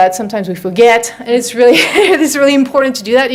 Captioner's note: laughs